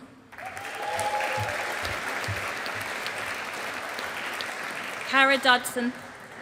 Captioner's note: audience applauding